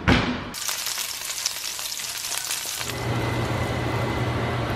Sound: sizzling

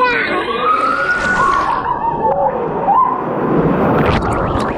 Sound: shouting

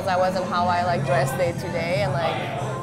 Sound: none

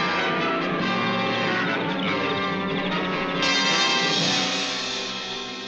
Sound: insects chirping

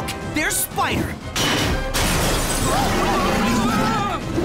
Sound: crashing

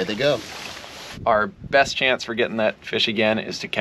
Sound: fish splashing

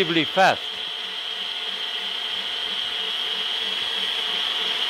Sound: machine whirring

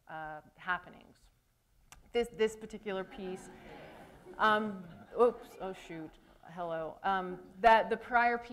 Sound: laughter

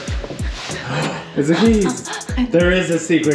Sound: gasps

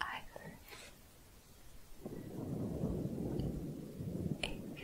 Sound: windy sounds

